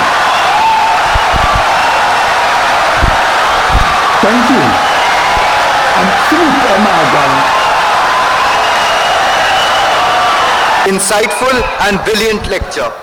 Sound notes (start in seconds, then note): 3.1 wild applause and cheering for 17 seconds